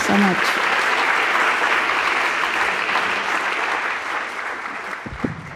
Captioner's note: audience applauding